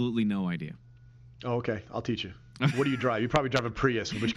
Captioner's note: laughs